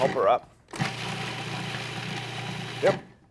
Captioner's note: food processor whirring